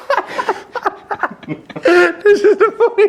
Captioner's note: speaker interrupted by laughing